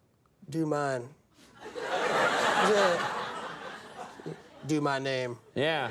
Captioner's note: audience laughing